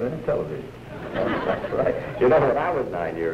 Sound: laughter

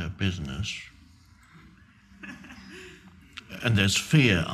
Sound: audience laughing

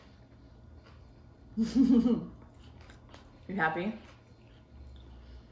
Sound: giggles

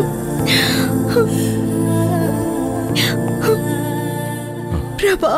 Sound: crying

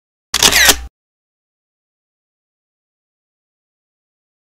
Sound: camera shutters

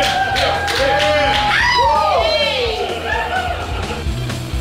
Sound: crowd cheering; upbeat rock music

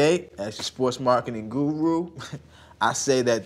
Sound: chuckles

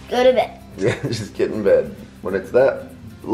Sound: chuckles

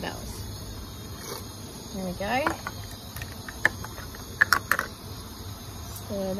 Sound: cashews sploop into pot

